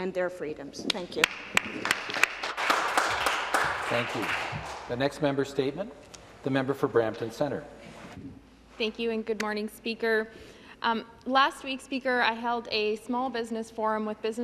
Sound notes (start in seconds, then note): 4.7 some Applause